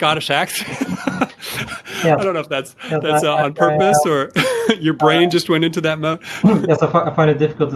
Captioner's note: chuckle